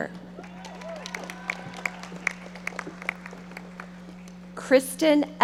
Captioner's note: audience applauding